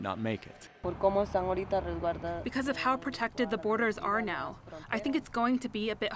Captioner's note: through translator